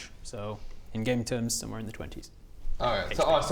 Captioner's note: none